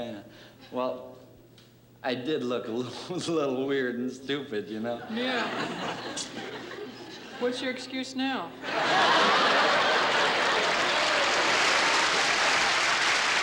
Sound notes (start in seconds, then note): 8.6 laughter; 9.1 applause